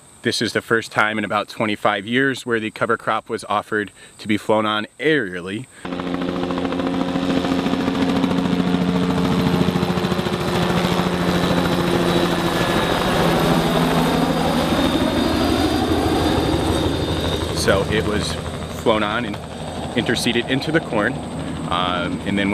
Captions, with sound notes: This is the first time in about 25 years where the cover crop was offered to be flown on aerially. [sound of helicopter flying] so it was flown on and interseeded into the corn